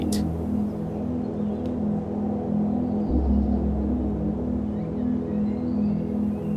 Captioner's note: ambient music; wind whistling